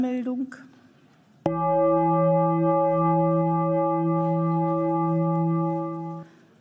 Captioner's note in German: Gong